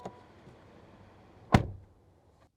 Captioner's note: door Thud